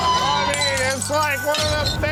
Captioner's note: customers yelling; glass shattering; babbling drunkenly